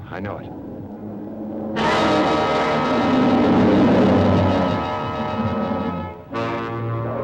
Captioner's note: lizard bellowing; dramatic music